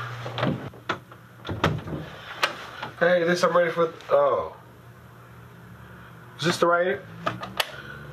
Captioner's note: door opens